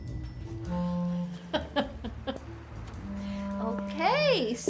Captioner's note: laughs